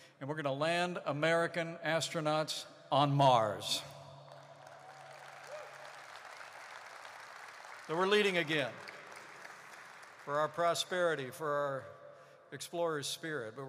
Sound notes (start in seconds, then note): 4.2 applause